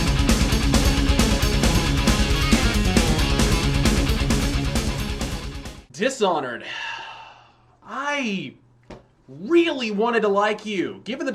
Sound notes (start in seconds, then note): 6.6 deep breath